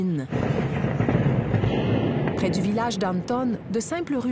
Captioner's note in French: explosion